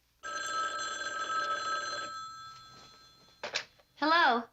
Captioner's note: phone ringing